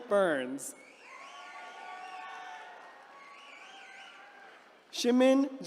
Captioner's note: attendees cheering